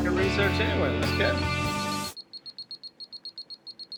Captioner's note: beeping